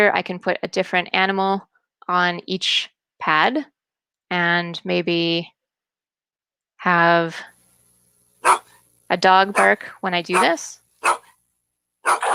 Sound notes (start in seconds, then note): 8.4 dog bark